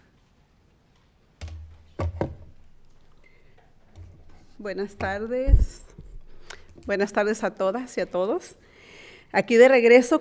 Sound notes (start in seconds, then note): 4.9 speaking in foreign language